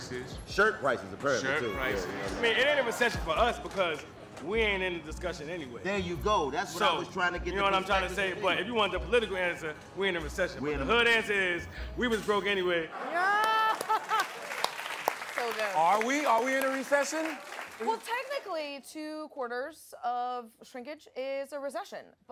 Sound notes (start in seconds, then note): 13.3 applause; 13.4 laughter